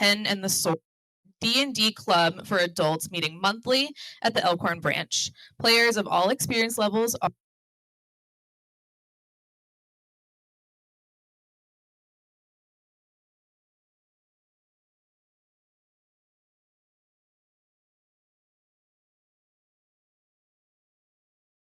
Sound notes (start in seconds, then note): 8.5 silence